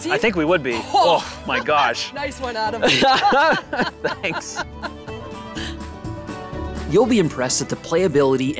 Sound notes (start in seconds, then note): 2.8 both laughing; 5.5 lively music